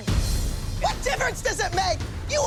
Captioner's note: yelling